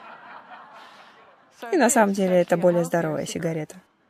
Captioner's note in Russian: Смех